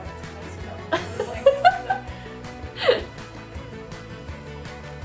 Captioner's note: laughing